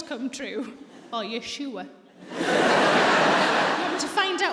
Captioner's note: audience laughs